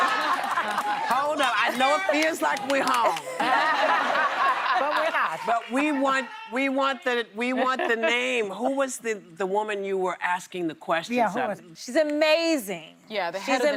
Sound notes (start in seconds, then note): 2.9 laughter